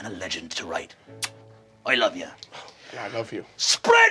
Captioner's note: kissing